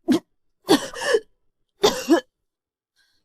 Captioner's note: cough, cough, cough